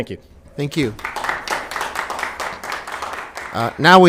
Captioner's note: applause